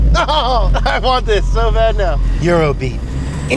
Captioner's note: laughs